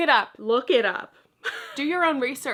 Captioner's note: laughs